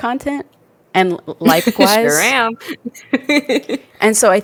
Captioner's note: laughs